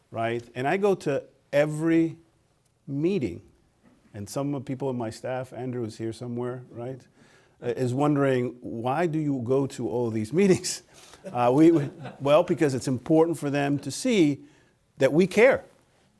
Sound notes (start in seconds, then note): 11.6 laughter